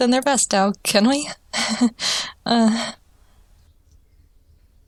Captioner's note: nervous laughter